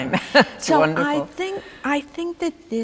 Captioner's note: laughing